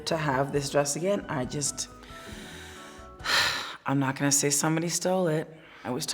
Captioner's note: sighs